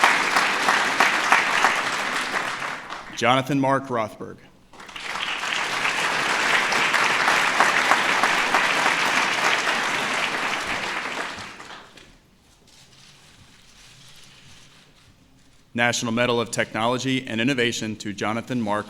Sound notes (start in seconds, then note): 4.7 applause